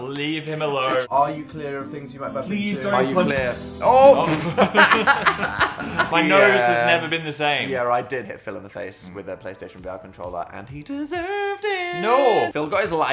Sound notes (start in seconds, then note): 4.0 Dan and Phil laughing